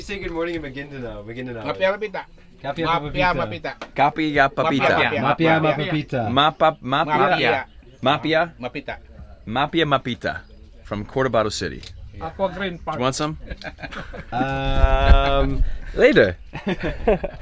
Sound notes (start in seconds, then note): 1.4 man speaks in foreign language; 4.1 group speaks in foreign language; 9.8 speaks in foreign language